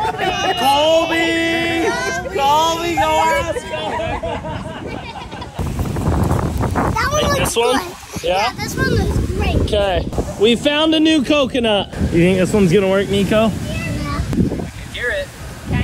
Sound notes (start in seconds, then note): 3.9 everyone laughing